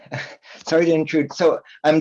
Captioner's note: chuckles